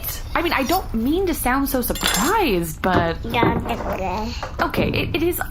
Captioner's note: knife is set down on the table